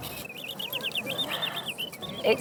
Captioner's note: birdsong